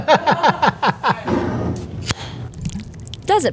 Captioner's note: laughing; jar sliding; lid opening; salsa pouring